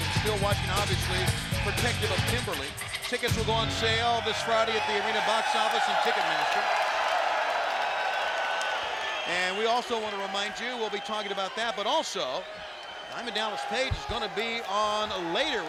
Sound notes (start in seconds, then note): 7.6 audience cheering